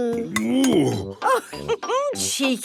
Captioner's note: laughs